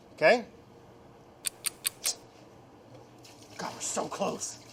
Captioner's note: clock ticking